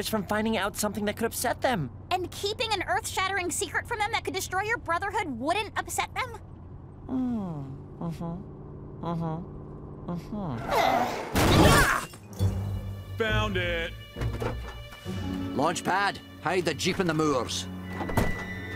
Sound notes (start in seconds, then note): 10.1 sighs; 10.6 brakes screech, crash